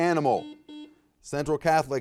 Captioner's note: buzzer beeping